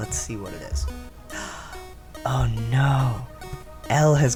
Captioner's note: gasp